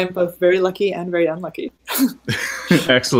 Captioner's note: laughing